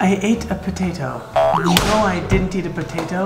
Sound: slapping

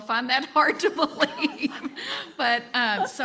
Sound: panel chuckling

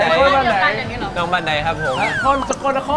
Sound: in Isaan dialect

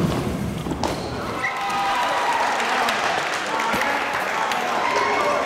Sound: cheering

